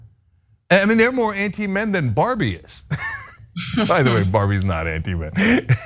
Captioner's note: laugh